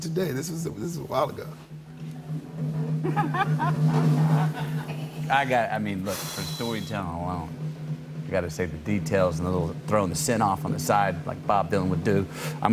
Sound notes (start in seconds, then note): 1.6 drum roll; 3.1 laughs